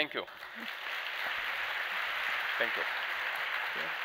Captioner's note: applause